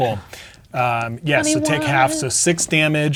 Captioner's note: sing-song